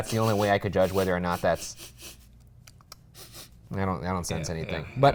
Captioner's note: sniffing